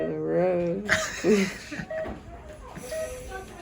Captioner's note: giggles